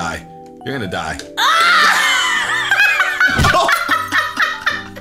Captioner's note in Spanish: risas